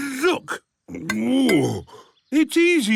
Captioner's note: grunts